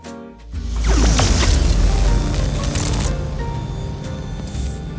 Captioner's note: static discharge